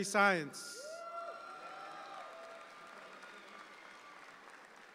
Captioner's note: audience applauds